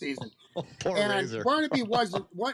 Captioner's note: laughter